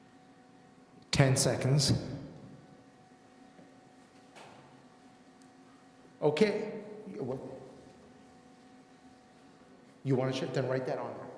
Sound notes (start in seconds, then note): none